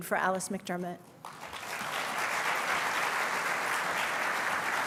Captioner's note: applause